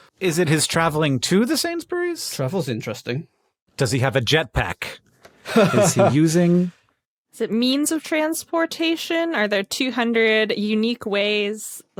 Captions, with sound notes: Is it his traveling to the Sainsbury's? Travel's interesting. Does he have a jetpack? Is he using... (guffaws) Is it means of transportation? Are there 200 unique ways,